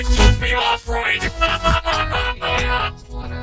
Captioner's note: laughing heartily